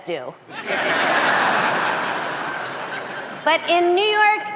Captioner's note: audience laughing